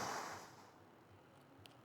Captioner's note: exhaling